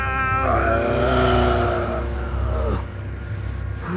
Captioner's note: moaning